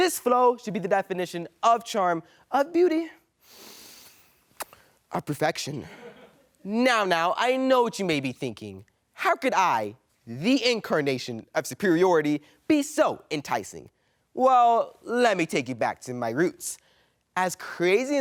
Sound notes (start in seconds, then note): 3.4 inhales; 4.5 kisses; 5.8 man laughs